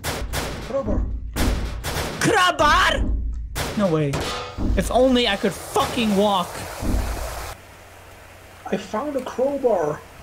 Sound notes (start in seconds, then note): 1.4 door sounds; 4.1 metal sounds